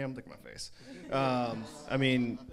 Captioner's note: crowd laughs